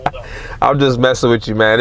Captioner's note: laughing